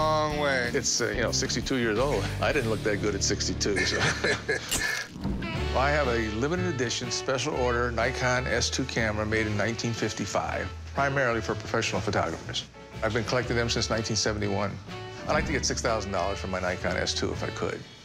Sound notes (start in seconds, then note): 3.6 camera flash clicks; 3.7 both laugh